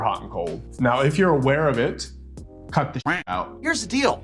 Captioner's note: quacking